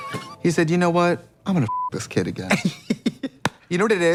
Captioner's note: beep